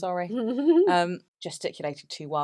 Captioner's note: laughs